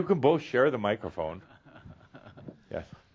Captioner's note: chuckles